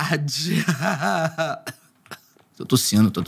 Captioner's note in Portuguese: rindo e depois tossindo